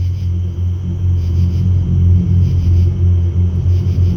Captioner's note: eerie background sounds